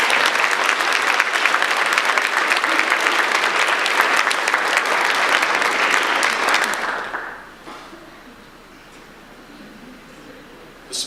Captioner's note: audience applause